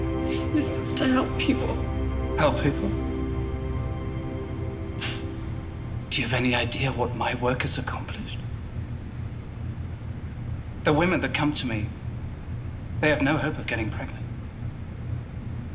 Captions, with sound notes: You're supposed to help people. - Help people? (scoffs) Do you have any idea what my work has accomplished? The women that come to me, they have no hope of getting pregnant.